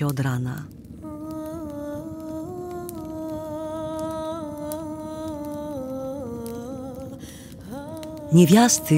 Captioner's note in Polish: dźwięk palonego drewna